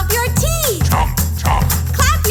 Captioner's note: chomp, chomp